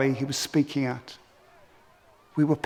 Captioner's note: shouting